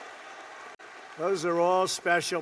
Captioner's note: applause